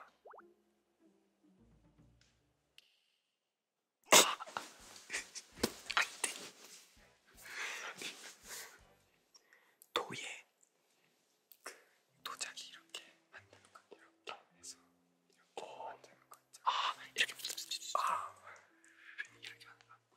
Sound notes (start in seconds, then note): 4.0 laughs